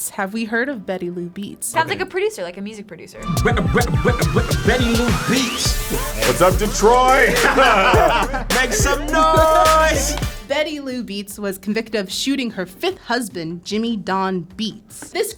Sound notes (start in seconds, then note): 3.4 electronic music; 5.7 laughs